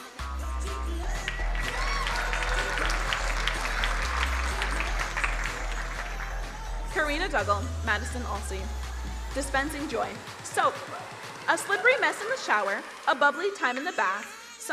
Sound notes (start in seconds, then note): 0.5 crowd cheering and applauding